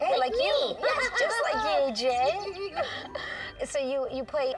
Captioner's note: laughing